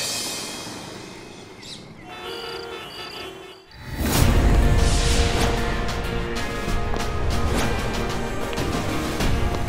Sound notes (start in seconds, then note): 2.0 traffic noises; 6.6 dramatic music